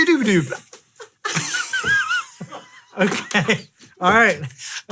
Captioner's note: laughing